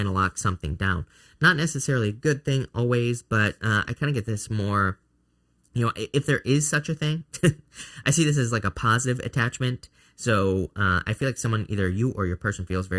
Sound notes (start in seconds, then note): 7.3 chuckles